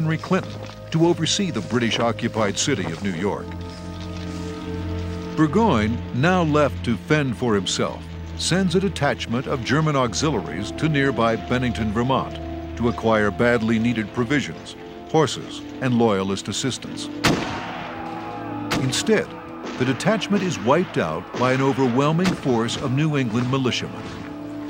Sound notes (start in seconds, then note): 17.2 gunfire